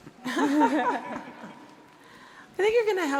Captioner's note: audience laughing